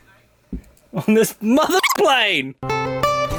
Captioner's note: beep